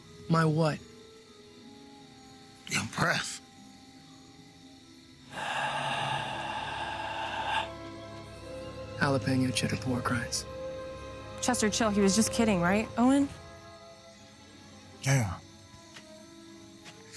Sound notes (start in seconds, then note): 5.3 exhales